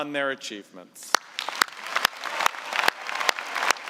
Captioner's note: applause